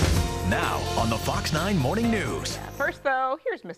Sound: voiceover

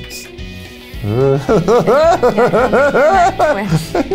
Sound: laughs

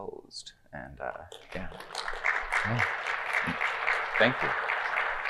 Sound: audience clapping

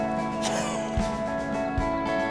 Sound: Max laughs; reflective music

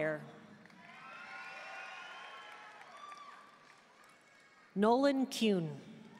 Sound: audience cheering and applauding

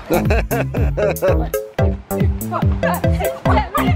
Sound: laughs

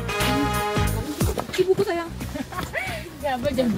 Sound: stumbling

